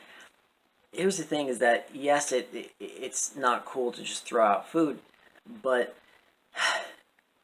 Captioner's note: sigh